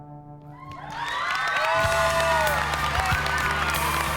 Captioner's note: applause